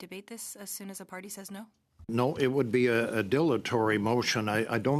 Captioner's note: speaking French